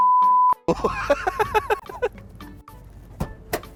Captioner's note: laughs